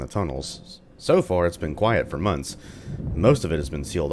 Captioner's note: thunder